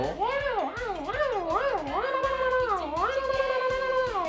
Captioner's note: sound imitation of an engine